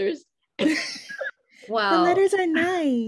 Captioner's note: laughing